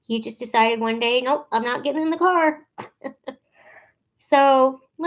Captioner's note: chuckling